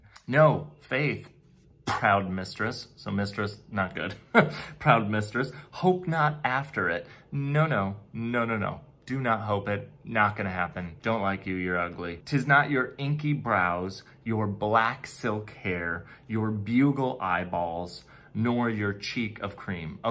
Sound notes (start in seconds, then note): 4.1 chuckles